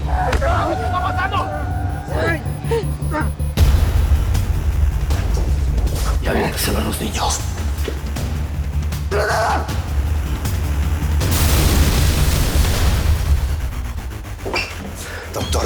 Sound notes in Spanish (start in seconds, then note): 11.3 Estruendo